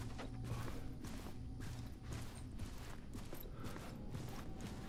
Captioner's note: none